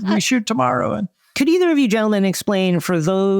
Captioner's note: panelists laughing